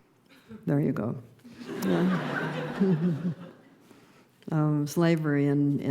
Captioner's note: laughter